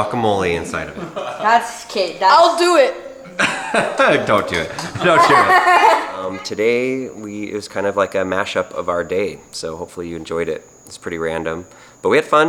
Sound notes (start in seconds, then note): 3.2 laughter